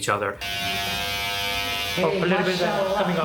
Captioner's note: buzzer